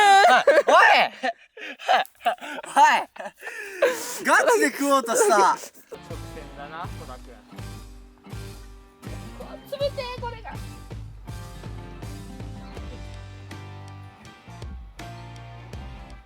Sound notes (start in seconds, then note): 3.4 laughs